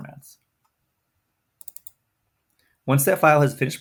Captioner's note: mouse clicks